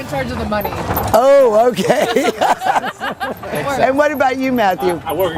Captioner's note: all laughing